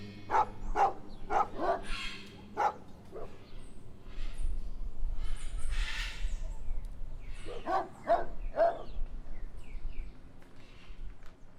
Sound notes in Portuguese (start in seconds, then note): 0.1 cachorros latindo; 6.4 pássaros cantando